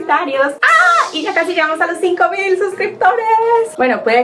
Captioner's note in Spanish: Grito de felicidad